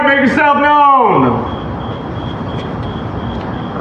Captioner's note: criricketets s chirpin